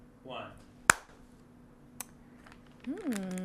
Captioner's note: claps